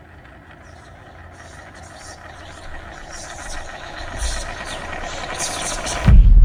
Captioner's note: knife whirling; voices whispering; dramatic music thumps